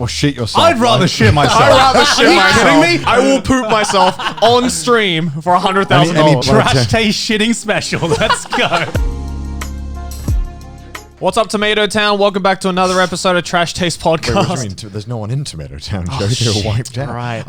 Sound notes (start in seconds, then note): 7.7 all laughing; 8.1 relaxed music